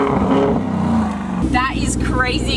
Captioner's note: vrrrroooom-vrrroooom!